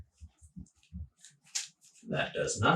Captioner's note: laughing